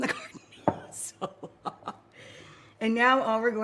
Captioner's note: quiet laughing